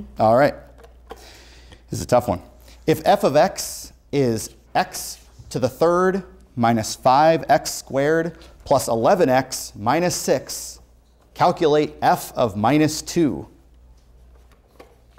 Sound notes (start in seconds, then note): none